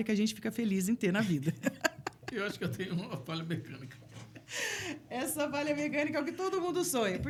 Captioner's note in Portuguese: risadas